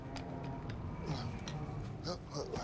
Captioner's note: Jackson groans